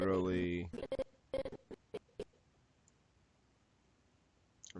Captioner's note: audio skipping